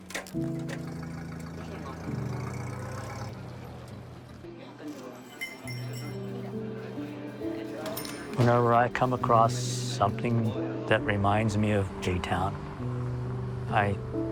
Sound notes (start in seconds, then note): 0.0 old car engine; 6.8 shop door bell